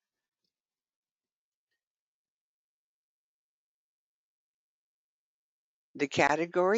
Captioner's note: 5 seconds pause